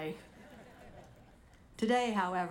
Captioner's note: audience laughing